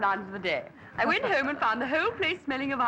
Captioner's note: laughs